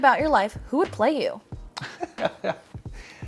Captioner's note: laughs